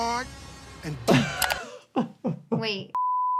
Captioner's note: laughing